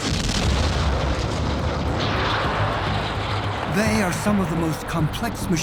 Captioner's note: rocket engines roaring